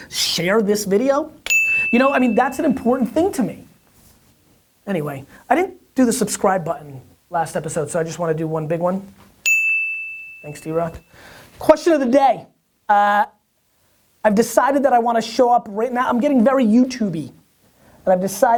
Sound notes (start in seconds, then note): 1.4 bell dings; 9.4 bell dings